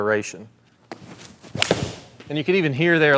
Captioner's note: club striking ball